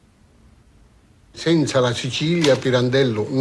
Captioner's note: speaking italian